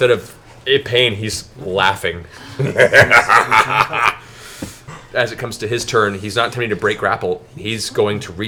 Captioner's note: laughs